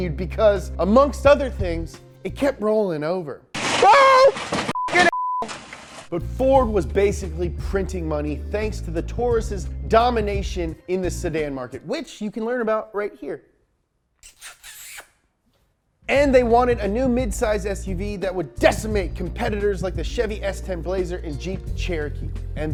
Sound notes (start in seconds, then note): 14.2 smooches